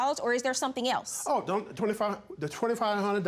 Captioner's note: stammering